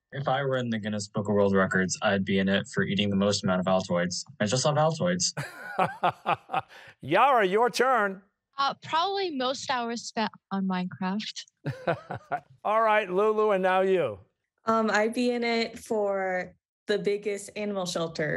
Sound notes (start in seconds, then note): 5.3 laughs; 11.6 chuckles